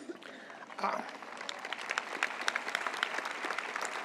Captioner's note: audience applauds